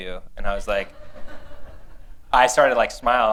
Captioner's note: laughter